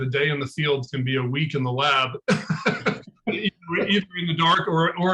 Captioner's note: laughing